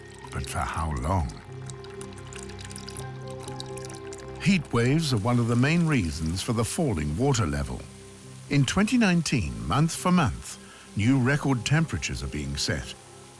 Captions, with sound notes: But for how long? [burbling of water] Heatwaves are one of the main reasons for the falling water level. In 2019 month for month, new record temperatures are being set.